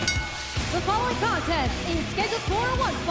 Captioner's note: bell ringing